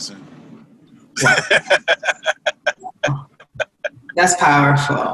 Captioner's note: laughter